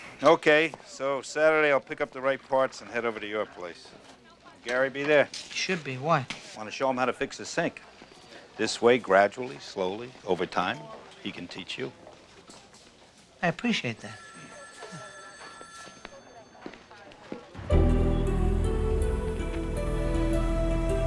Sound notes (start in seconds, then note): 14.0 telephone ringing; 17.6 suspenseful music